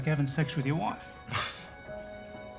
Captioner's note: scoffs